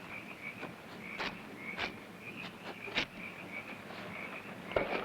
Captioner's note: footsteps pattering